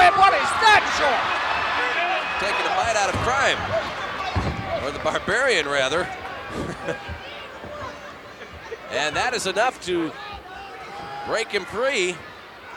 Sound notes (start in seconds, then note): 0.7 applause